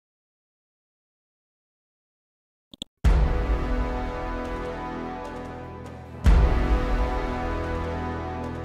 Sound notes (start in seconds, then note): 2.7 clicks mouse; 3.2 dramatic chord